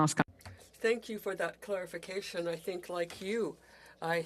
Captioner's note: speaking French